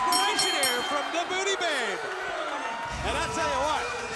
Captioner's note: bell ringing